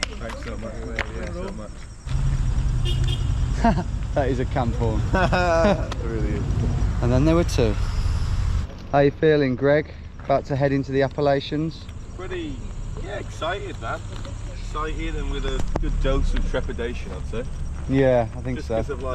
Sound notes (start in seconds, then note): 2.0 horn honking; 4.8 laughing